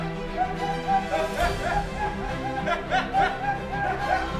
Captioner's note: squirrels laugh to fade